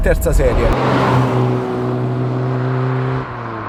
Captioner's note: sound engine and exhaust